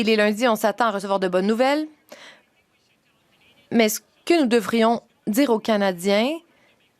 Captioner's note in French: voix de l'interprète